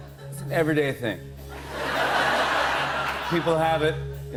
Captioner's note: laughter